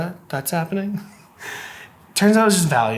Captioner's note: laughing